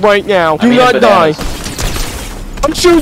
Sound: loud gunfire

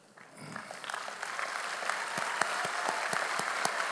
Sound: audience applauds

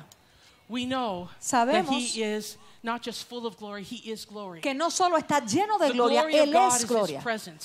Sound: Spanish; Spanish

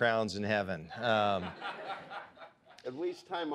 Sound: audience laughs

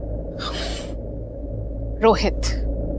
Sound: Poonam scoffs

